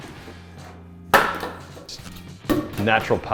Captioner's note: foam snapping